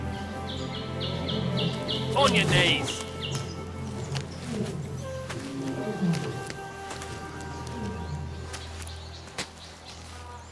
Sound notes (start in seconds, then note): 0.2 birds chirping; 4.6 lions chortling